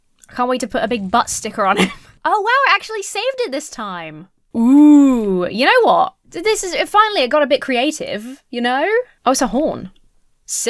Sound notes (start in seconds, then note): 1.7 wheezes